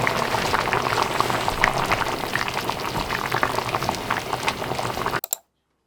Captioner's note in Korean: 보글 보글